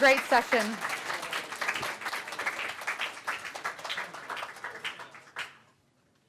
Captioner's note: audience applause